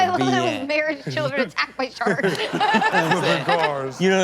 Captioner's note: everyone laughs